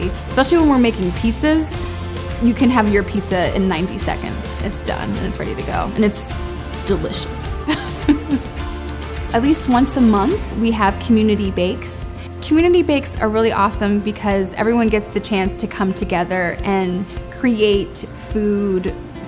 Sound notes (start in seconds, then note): 7.6 laughter